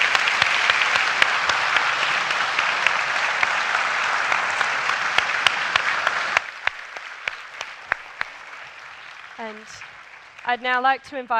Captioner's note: applause